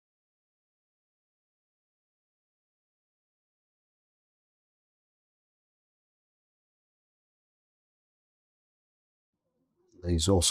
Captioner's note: silence